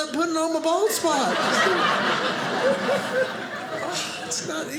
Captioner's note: audience laughing